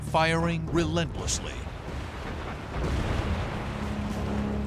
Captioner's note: explosions